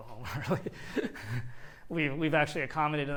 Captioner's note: laughs